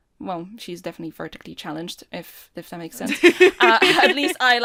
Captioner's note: Rover laughs